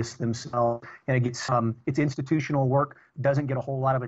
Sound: audio corruption

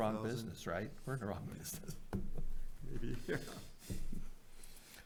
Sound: chuckles

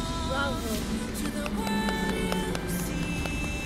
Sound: applause

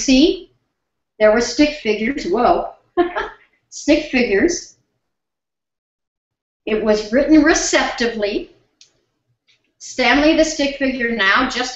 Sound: whoa - laughs

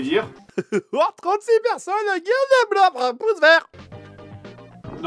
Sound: laughs

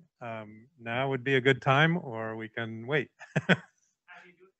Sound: laughs

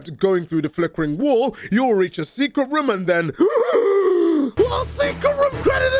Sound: gasp

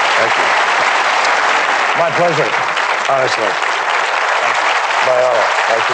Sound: applause

